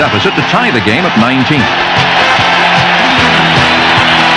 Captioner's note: crowd cheering